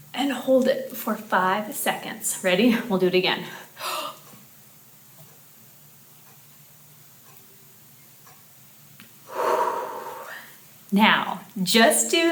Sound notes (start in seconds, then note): 5.9 breathes out loudly